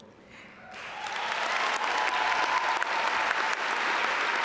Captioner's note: audience applaud